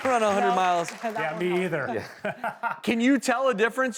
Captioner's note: laughs